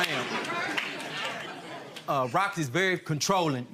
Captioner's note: audience laughing